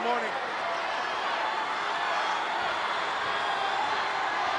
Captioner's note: crowd yelling